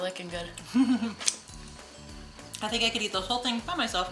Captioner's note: laughing